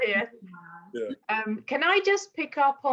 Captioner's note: mumbles; laughs